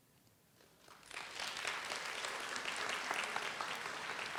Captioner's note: audience applauds